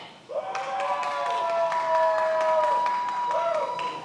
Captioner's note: many applauding